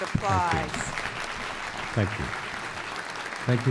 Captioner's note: applause